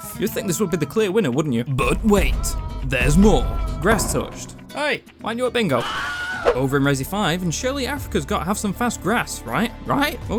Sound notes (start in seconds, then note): 5.8 Wilhelm Scream